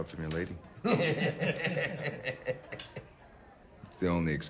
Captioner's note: men laughing